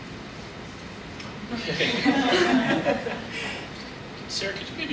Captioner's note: panelists laugh